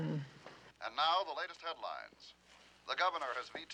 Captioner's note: man on radio